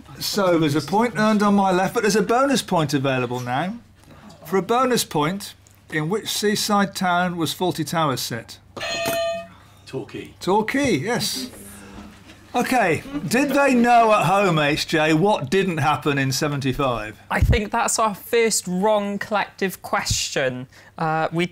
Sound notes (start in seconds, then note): 8.8 clang